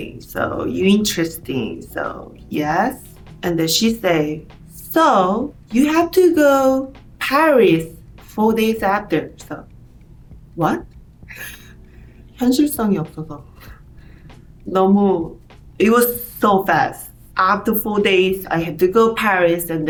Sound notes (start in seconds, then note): 12.4 speaking in Korean